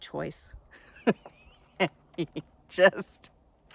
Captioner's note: laughing